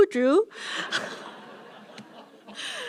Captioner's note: laughter